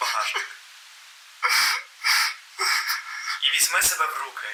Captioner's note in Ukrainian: плач